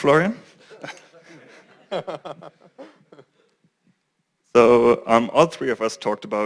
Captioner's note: laugh